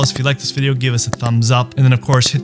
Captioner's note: mouse clicking